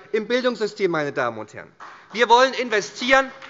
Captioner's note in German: Beifall bei der SPD